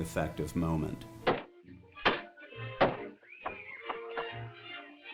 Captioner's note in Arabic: طرق المطرقة